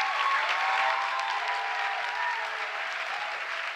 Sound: applause

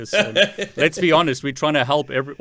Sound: laughing

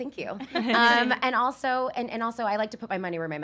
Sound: laughs

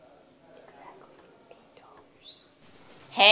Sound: whispering very quietly

